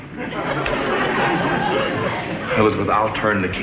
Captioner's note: audience laughs